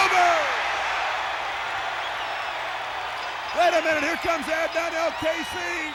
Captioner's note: applause